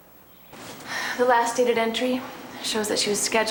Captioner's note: sighing